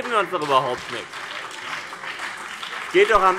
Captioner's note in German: Beifall BÜNDNIS 90/DIE GRÜNEN und vereinzelt CDU